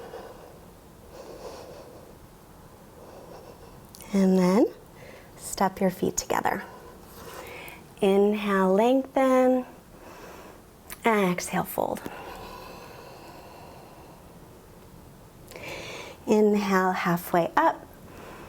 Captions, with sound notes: And then step your feet together. Inhale, lengthen (inhales). Exhale, fold (exhales). Inhale, halfway up (inhales).